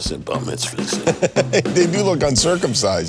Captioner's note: laughing